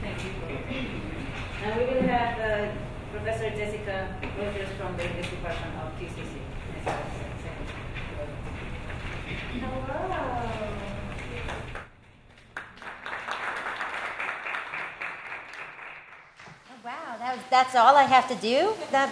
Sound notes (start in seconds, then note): 12.4 audience applauds